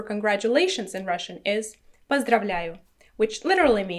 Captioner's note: speaking in foreign language